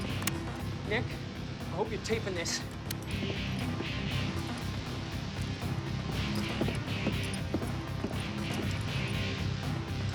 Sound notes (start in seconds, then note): none